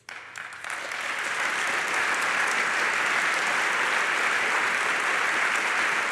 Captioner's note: applause